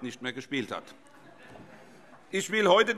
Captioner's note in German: Heiterkeit